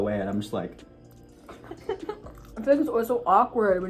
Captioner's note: laughs